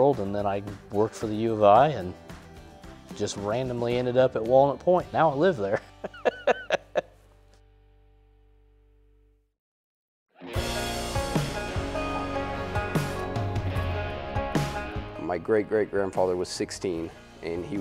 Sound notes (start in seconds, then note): 7.5 laughter